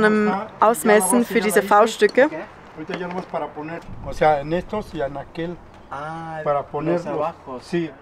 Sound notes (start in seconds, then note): 2.9 in Spanish